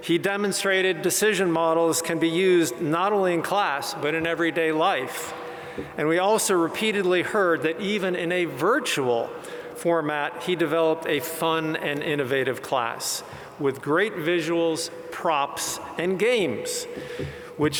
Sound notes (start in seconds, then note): none